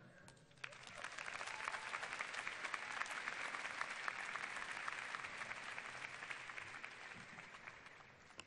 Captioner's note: applause and cheers